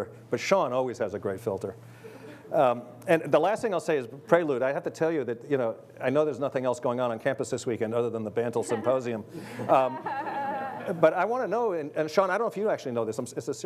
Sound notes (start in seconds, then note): 9.6 laughing